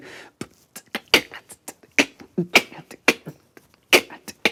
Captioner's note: fancy beatboxing; clicks tongue